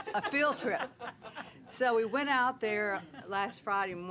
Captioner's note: laughing